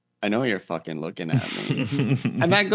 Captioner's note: laugh